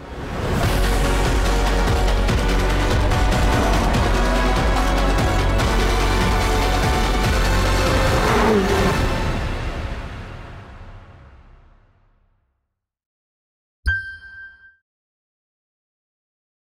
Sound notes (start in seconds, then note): 0.2 intense music; 8.3 engine revving; 13.8 logo chimes